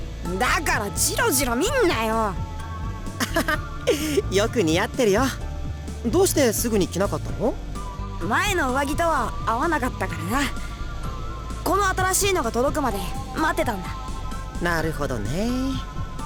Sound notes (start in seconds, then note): 3.2 laugh